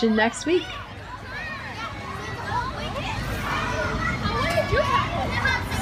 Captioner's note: Sounds of neighborhood playground and bus passing in Queens fade out